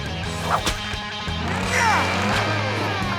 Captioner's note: grunting